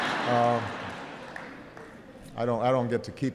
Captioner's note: laughter